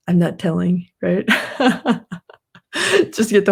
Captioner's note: laughs